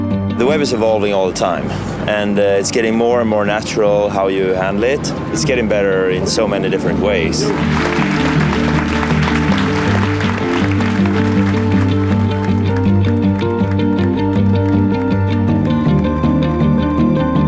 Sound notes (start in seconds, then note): 7.4 applause